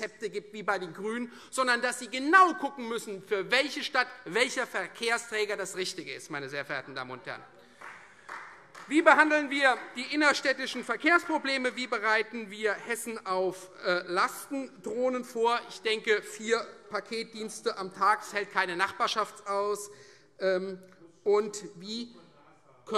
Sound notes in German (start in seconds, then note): 7.8 Beifall Freie Demokraten - Zurufe